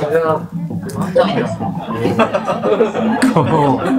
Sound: other riders chatting

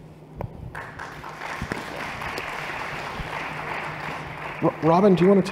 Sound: applause

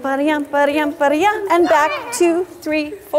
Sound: children giggling

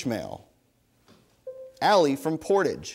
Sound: bell dings

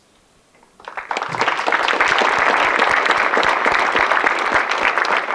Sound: audience clapping

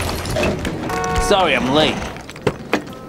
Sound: smash; clunk; honk

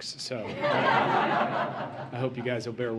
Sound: laughter

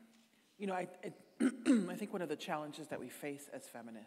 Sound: clearing throat

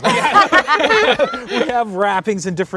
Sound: all laughing

